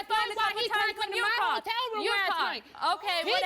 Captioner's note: both yelling